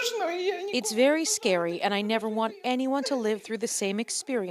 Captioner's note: crying